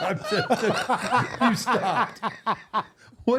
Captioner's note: laughing